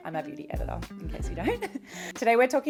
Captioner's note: laughing